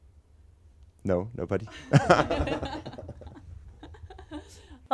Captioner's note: laugh